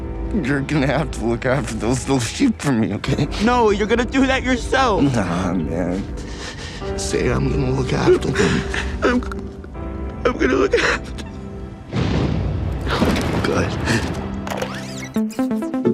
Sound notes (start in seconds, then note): 6.6 Eddie gasping; 11.9 distant thunder; 14.4 loud clicking